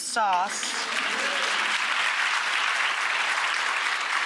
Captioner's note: applause